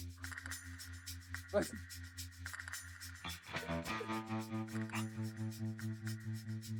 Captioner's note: laughs